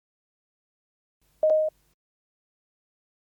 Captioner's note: beeps twice